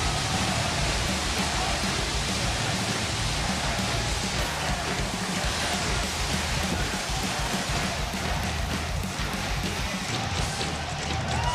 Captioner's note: audience chants, "nxt"